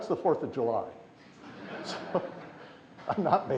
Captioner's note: laughter